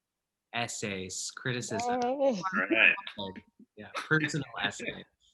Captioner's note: clapping